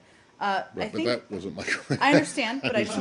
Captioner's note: laughter